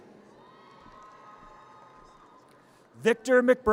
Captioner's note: audience cheers